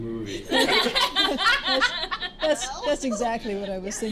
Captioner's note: laughter